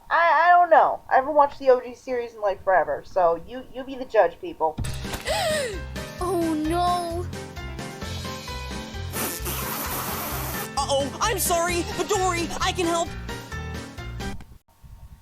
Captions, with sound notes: I-I don't know. I haven't watched the OG series in like forever, so you- you be the judge, people. - (splattering, gasping) - Oh no! (spitting) - Uh-oh! I'm sorry! But don't worry, I can help!